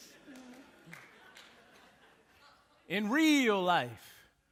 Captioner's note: audience laughing